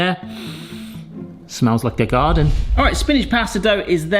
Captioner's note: sniffs